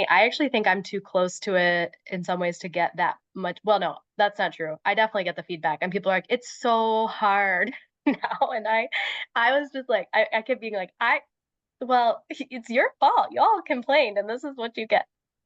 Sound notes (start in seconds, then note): 8.1 laughs